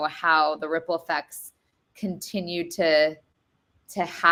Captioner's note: none